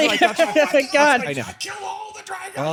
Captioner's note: laughing